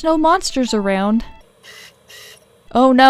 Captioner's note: disc spinning sounds